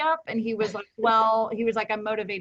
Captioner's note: chuckles